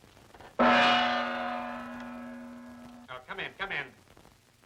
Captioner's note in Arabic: يقرع الجرس